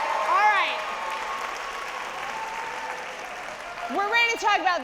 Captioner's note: audience applauding